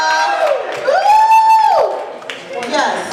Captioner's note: cheering; yells in excitement